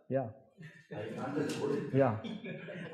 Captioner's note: laughing